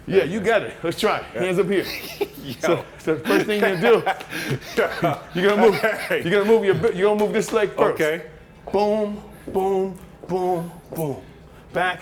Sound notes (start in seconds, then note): 1.3 laughs